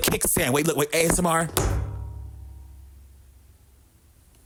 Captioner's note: stand clicking